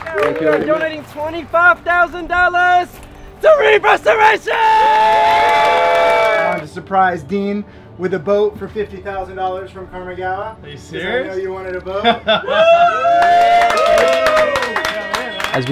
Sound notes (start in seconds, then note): 5.5 crowd applauding; 12.0 laughs; 12.4 crowd applauding